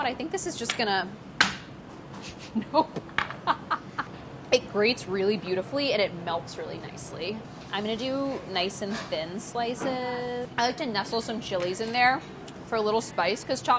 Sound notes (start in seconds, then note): 3.5 laughing